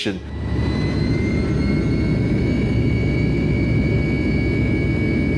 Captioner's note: plane engine roaring